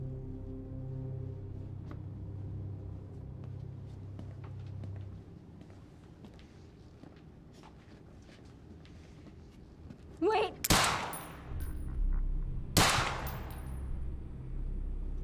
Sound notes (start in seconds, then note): 12.8 gunshot